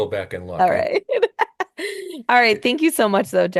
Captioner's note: laughing